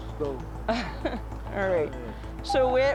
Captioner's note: laughs